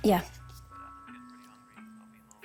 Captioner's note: on phone